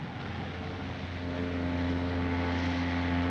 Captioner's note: steam horn blowing